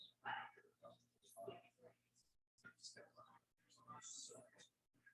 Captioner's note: people chattering indistinctly